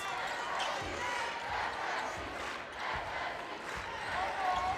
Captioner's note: crowd chants